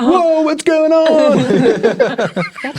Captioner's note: players laughing